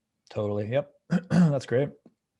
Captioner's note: clearing throat